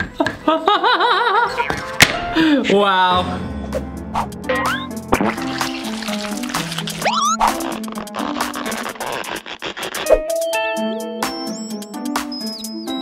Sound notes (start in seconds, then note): 0.4 laughing; 5.1 squirting sounds; 8.0 stretching sounds